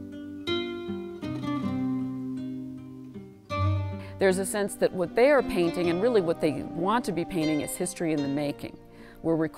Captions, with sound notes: - [Voiceover] There's a sense of what they are painting and what they want to be painting is history in the making.